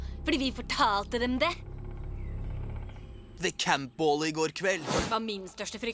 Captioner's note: none